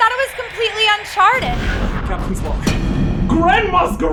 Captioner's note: crashing